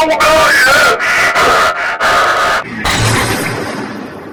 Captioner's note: breathes